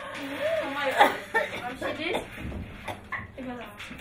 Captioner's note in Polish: kaszel; mówią gwarą Krakowiaków Wschodnich